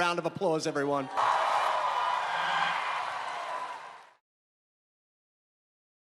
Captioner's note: crowd cheering and clapping